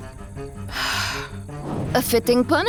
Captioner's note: sighs